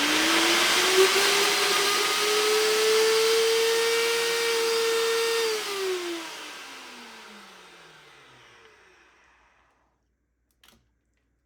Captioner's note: motor whirring